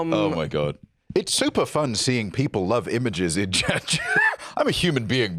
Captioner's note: laughs